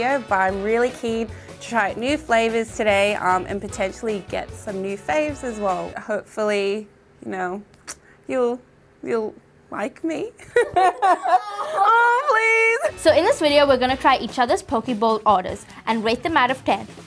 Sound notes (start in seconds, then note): 10.6 everyone laughs